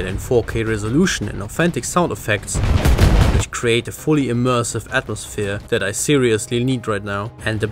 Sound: boom

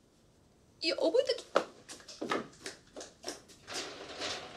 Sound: speaking foreign language

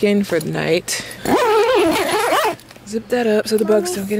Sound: tent zip zips

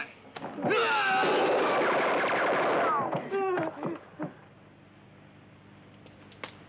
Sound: men grunting; guns blasting

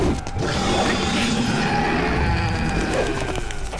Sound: growling

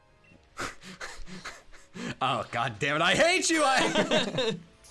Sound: laughs; laughter

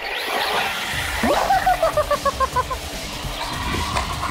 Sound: laughs

